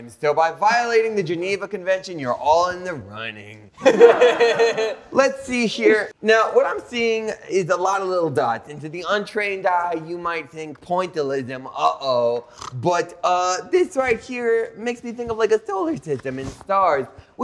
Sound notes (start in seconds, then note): 3.8 all laughing; 12.4 snorts